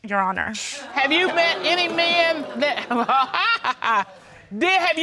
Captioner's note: chuckles